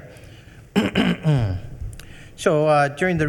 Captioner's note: clearing throat